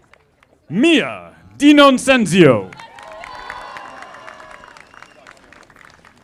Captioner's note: audience applauding